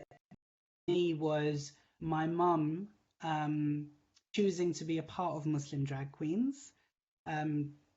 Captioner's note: audio glitch